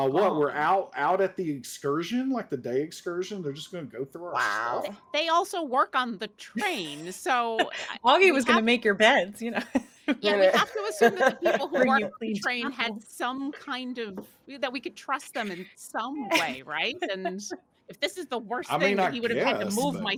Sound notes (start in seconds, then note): 10.1 laughing